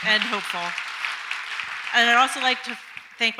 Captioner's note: audience applauds